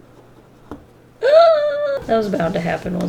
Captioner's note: gasps